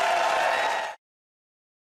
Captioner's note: cheers and applause